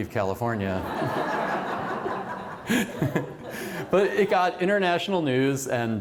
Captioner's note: laughter